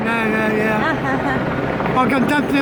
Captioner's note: helicopter whirring overhead